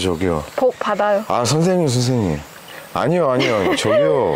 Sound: laughing

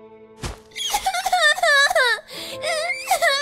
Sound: crying

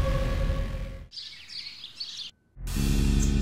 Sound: birds chirping

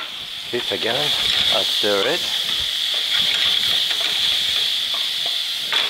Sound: pan sizzling

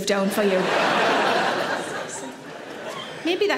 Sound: audience laughs

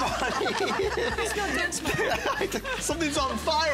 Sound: laughter

